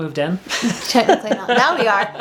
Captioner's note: laughing